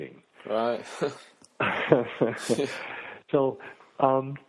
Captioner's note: laugh